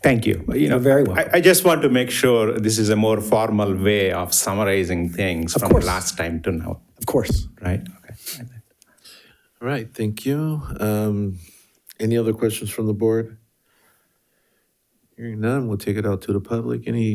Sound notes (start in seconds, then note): 8.3 speaks faintly